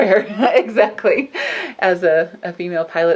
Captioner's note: laughs